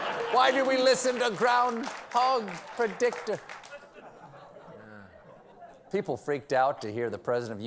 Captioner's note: laughter